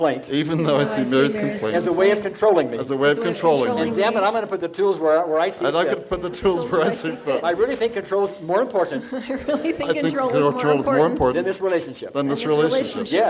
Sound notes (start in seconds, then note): 6.7 laughing; 8.8 laughing